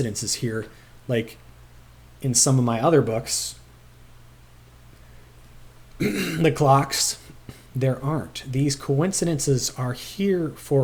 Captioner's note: clears throat